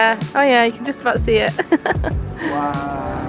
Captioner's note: laughing